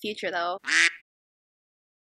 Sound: quack

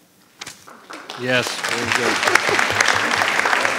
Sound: audience applauding

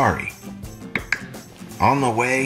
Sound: clicking noise

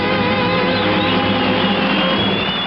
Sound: audience applauding

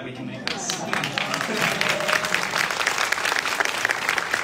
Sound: audience applauding

